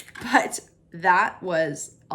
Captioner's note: eggs cracking